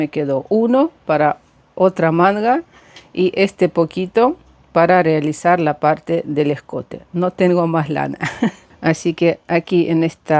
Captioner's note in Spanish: risas